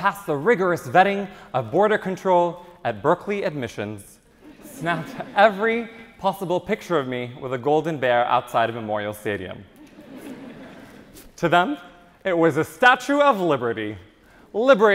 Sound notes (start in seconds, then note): 4.4 audience chuckles; 9.7 audience chuckles